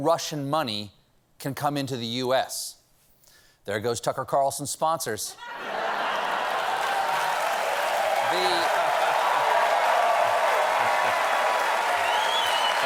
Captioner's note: cheers and applause; laughter